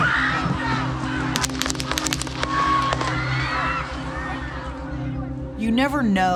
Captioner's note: guns firing, people screaming